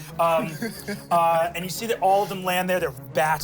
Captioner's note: laughs